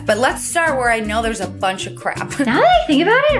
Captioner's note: laughs